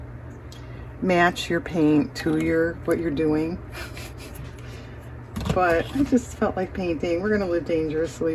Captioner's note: laughs